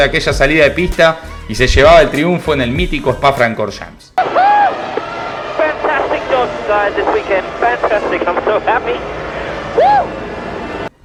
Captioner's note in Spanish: radio